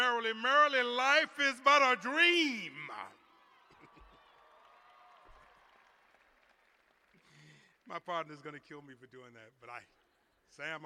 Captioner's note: cheers and applause